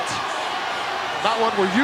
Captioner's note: audience cheering